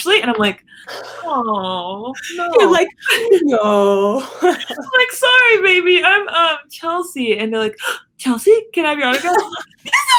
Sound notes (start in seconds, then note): 7.9 gasps